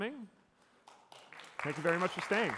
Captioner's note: applause